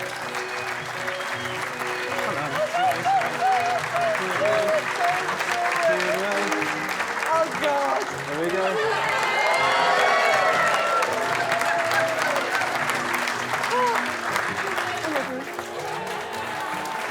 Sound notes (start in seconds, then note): 0.3 guests applauding; 0.3 uplifting music; 9.0 guests cheering and applauding